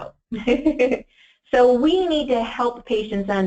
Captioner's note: laughs